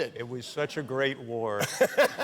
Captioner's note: laughter